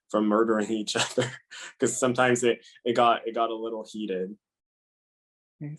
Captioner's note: laugh